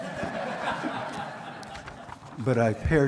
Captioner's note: laughter